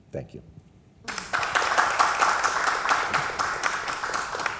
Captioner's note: crowd applauds